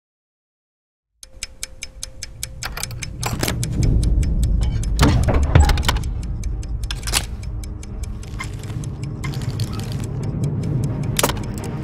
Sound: clock ticking rapidly

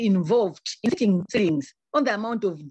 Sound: audio distorts

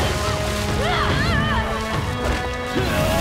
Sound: grunting

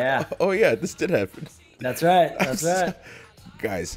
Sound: laugh

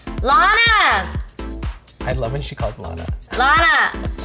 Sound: laughing

